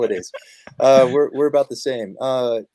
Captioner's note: laughter